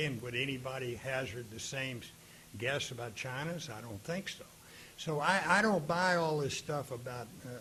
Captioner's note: none